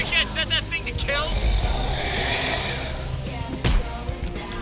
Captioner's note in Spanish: gruñidos